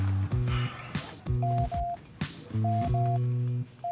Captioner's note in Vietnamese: tiếng bíp